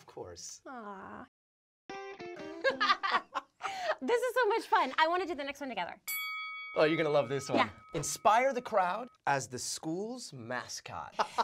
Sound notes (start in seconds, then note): 2.6 laughing; 6.0 ding